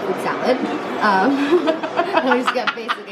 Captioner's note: laughter